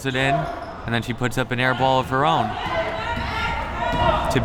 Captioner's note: none